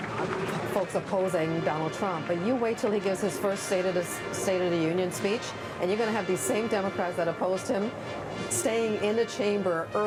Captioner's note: applause